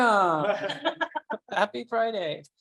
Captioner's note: laughing